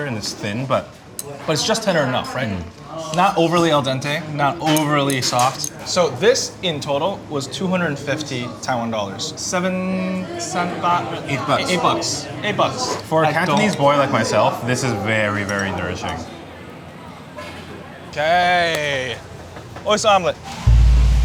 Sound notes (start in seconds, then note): 16.5 group chattering; 20.6 dramatic music